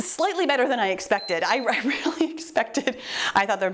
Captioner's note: timer beeps